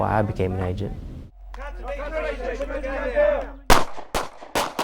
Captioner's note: gunshots